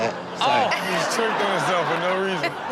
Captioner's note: audience laughs